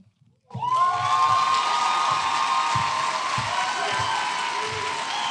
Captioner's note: applause